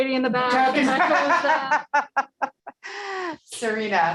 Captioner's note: laughing